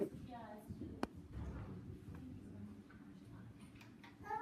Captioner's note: female mumbles